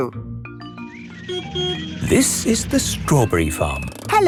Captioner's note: beeps